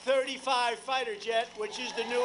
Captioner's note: applause